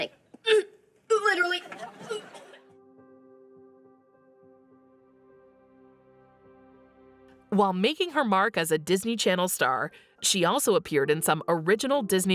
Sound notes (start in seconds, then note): 2.8 K.C. vomiting; 4.4 mellow piano music